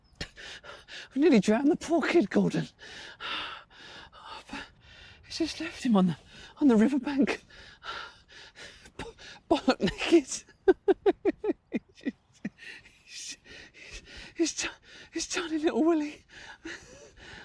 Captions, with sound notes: We nearly drowned the poor kid, Gordon We just left him on the, on the riverbank Bollock naked [laughing] His tiny little willy